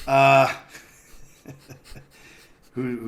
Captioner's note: laughs